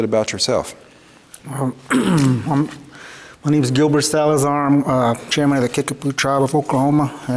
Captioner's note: clears throat